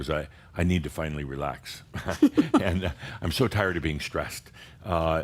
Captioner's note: giggles